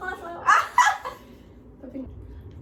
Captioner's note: all laughs